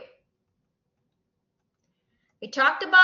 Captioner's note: silence